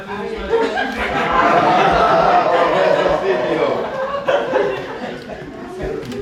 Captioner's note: laughter